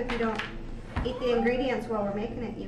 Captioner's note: whines